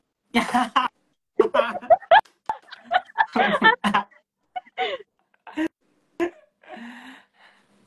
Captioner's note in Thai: เสียงหัวเราะ